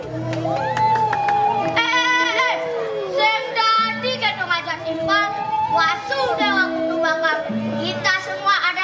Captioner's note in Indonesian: Tepuk tangan